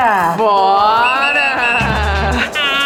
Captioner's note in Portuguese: apito